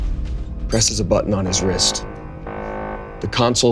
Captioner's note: loud beeping